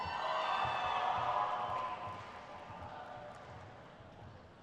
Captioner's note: crowd cheers